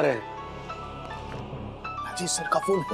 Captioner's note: phone ringing